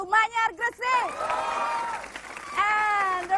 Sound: applause

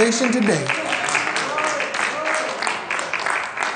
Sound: applause

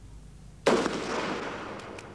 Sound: gunshot

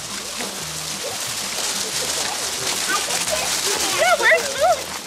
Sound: kids laughs; goats running on gravel

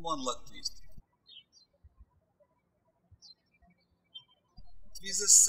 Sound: birds chirping

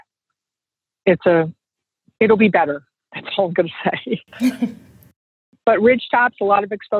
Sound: laughs

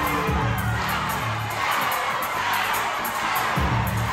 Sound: crowd cheering; upbeat music

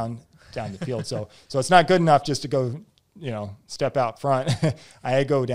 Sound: laughs

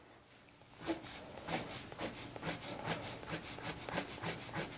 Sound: pencil scrapes

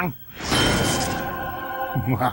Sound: ding!

